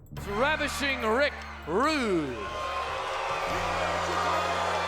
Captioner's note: crowd boos